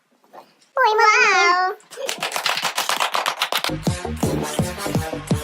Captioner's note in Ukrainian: оплески